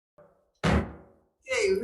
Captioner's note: gavel pounding